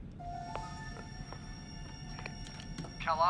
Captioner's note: footsteps approach